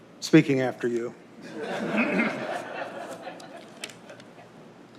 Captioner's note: laughter